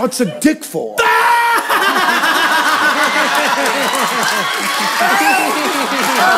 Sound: laughter

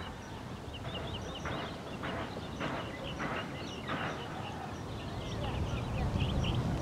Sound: birds chirping

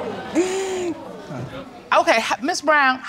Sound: audience exclaiming

